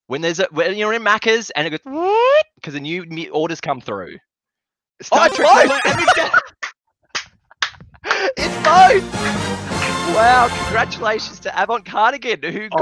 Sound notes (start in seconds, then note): 8.0 claps; 8.4 victory music